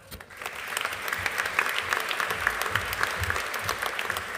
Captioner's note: audience applauding